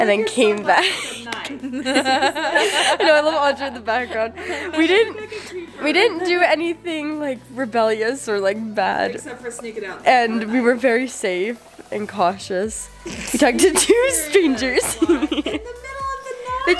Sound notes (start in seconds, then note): 0.8 laughing